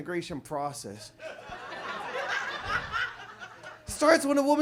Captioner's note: audience laughs